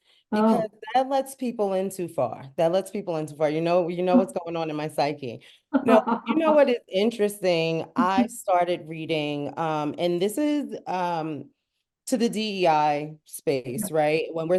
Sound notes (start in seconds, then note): 5.8 laughs